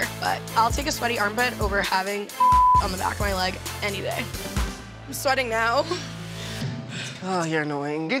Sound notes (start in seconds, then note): 2.4 beep